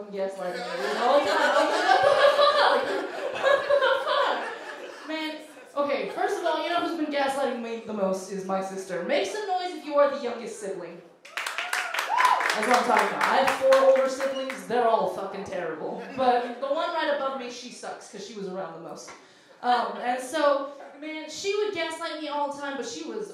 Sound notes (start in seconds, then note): 3.7 laughing; 11.2 cheers